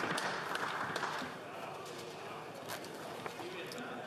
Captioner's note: banging